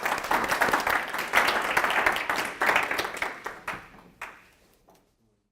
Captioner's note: applause